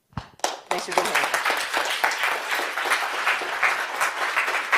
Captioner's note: audience applause